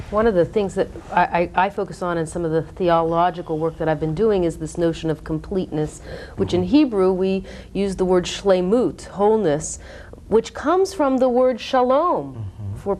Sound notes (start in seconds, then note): 8.1 foreign language